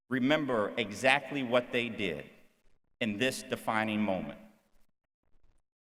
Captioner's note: none